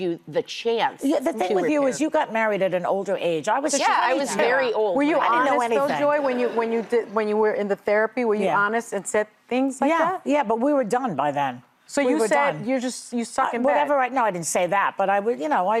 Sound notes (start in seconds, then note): none